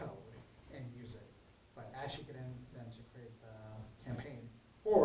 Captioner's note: speaks faintly